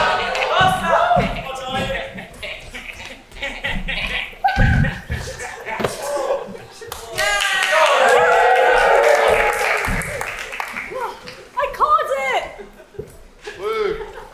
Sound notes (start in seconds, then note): 2.1 Meanies laugh evilly; 7.0 audience cheers